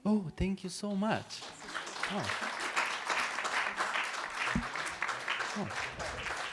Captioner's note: applause